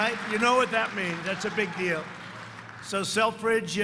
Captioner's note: cheers and applause